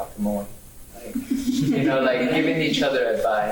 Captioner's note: laughing